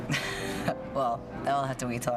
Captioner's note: chuckles